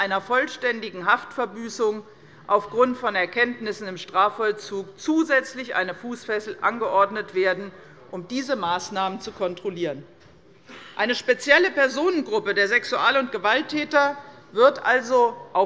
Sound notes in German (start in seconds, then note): none